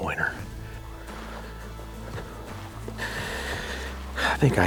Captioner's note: feet shuffling